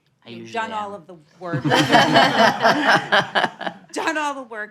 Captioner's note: audience laughing